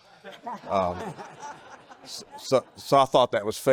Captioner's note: people laughing